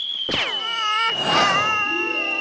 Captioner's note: crying